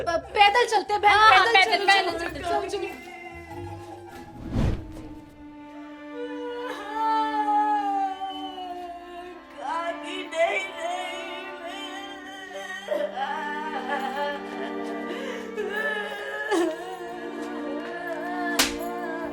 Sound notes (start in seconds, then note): 11.4 crying